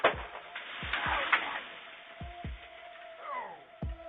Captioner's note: tree whooshing